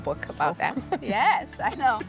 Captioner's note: laughing